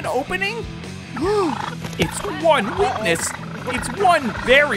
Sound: gasping

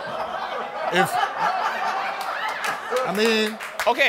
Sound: audience laughter

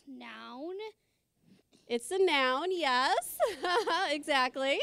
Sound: laughing

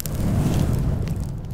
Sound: explosion sounds

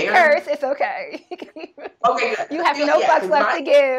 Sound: laughing

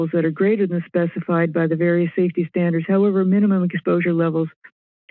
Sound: none

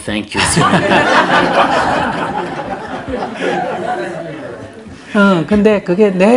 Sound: audience/ Laughter

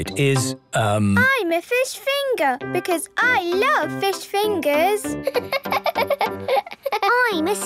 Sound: laughing

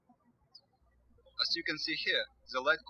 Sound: bird chirping

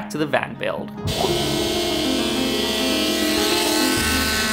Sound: sander whirs

